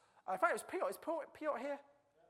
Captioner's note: stutters